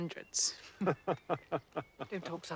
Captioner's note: Keduanya tertawa